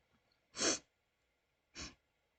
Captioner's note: sniffle